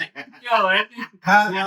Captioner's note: laughing